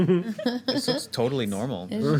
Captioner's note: laughing